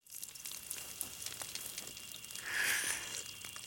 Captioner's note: water pattering